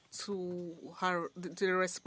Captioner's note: speaking French